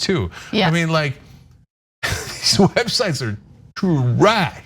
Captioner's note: laugh